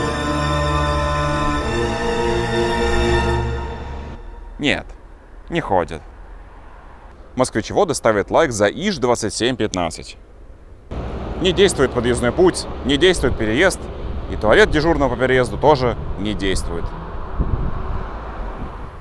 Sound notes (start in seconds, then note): 4.9 trains